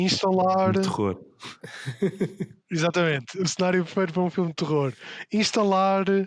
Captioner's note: laughs